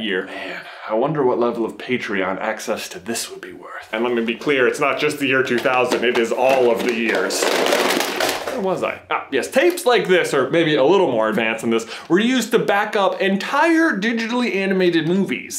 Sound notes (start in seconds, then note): 7.5 crashing